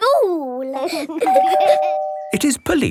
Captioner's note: door bell ringing